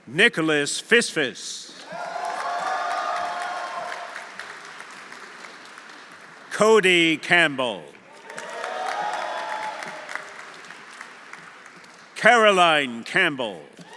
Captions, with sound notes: Nicholas Fisfis. (audience applauding) (audience cheering) Cody Campbell. (audience applauding) (audience cheering) Caroline Campbell.